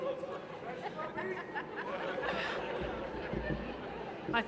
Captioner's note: laughter